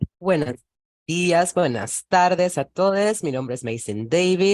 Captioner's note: speaks Spanish